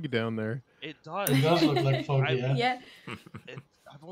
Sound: laughter

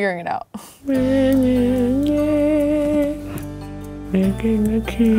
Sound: humming

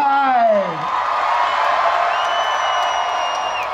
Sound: cheering

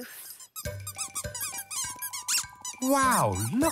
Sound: squeaking

